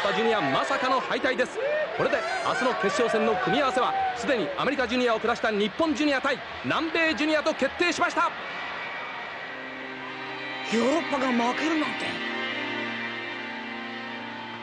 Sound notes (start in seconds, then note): 8.4 applause